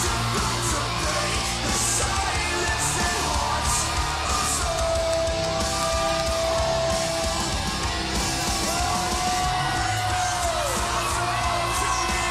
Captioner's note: crowd cheering